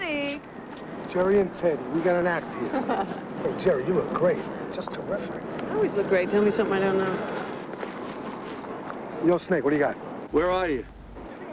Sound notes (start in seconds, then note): 8.1 ring